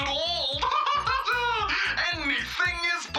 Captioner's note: cackles